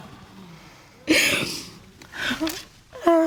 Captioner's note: sniffles